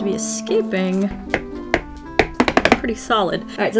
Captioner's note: tapping